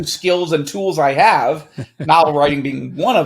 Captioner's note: laughing